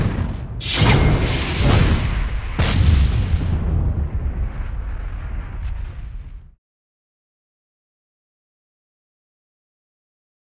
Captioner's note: whooshing sounds